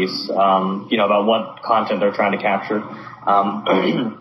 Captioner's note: clears throat